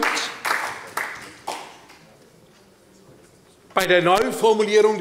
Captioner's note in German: Beifall bei Abgeordneten der SPD